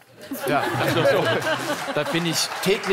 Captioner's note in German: Lachen